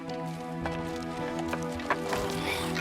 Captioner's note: groans